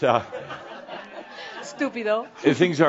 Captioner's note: more chuckles